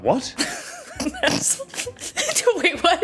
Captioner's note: crack up